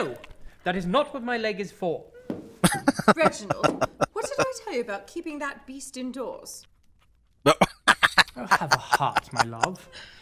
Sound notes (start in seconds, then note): 2.6 laughing; 7.5 laughing